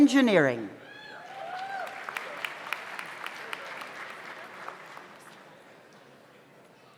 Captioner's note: audience cheers; audience applauds